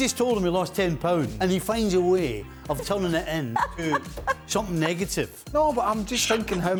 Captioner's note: laughter